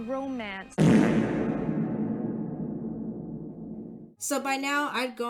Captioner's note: fart reverb